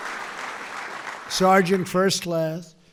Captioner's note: applause